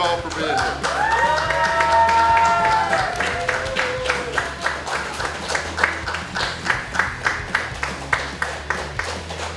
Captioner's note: cheering & Clapping